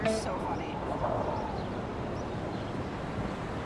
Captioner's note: city ambience